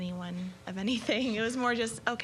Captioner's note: laughing